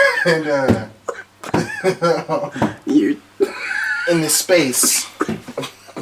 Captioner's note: laughing